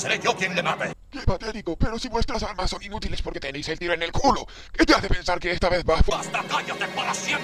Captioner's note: Imitating DON CANDIDO